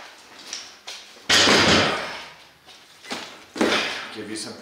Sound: strained grunt; crash

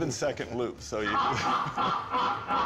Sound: joker laughs again

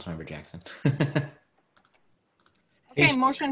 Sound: laughing

